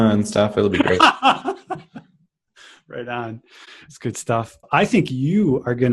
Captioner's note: laughs